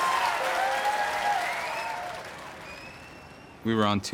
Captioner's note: applause